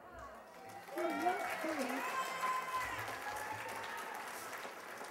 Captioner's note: cheers and applause